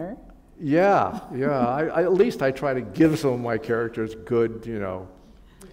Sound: chuckle

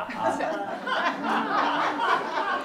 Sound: laughter

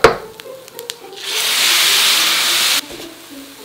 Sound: sizzling

